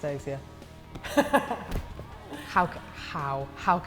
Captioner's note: laughs